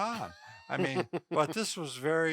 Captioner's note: chuckles